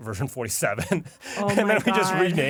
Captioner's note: laughs